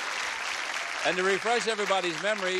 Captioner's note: applause